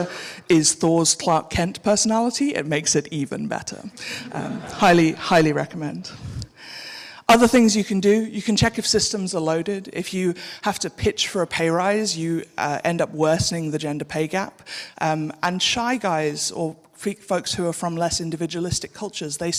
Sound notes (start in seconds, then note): 3.9 audience laughing